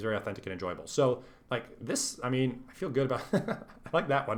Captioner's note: laughs